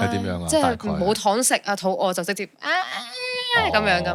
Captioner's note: cry